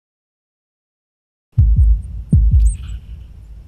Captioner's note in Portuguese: sons de batimentos cardíacos